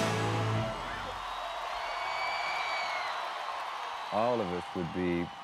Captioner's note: audience cheering